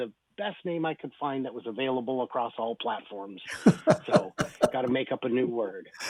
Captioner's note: laughs